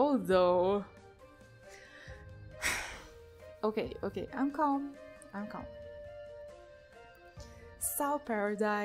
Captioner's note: sigh